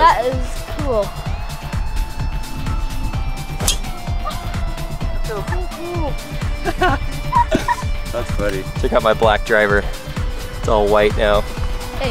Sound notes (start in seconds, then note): 3.6 golf ball impact sound; 6.4 laughs